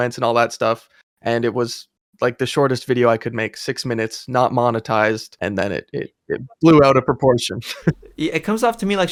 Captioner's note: laughs